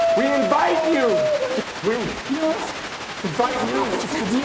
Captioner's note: Isabel screaming; static crackling